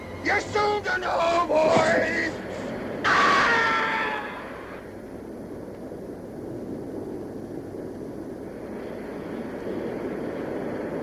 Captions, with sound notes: You're soon to know, boy! (screaming)